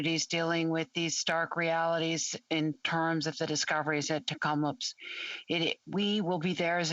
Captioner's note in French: voix de l'interprète